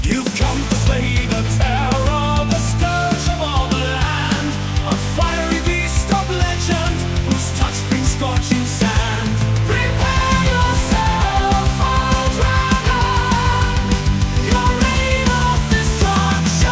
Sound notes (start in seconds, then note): 9.7 aggressive